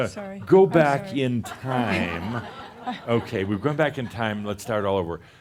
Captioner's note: laughter